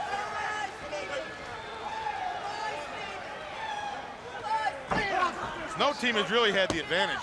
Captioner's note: crowd chatter